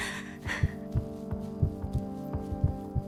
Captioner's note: heartbeats